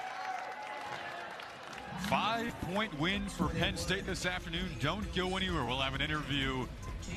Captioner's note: cheers and applause